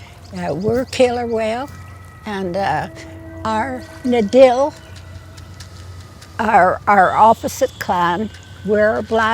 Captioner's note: in Gitxsan